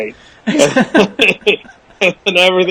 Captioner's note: both laugh